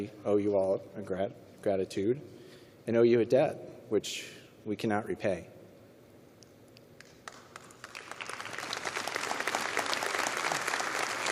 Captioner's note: applause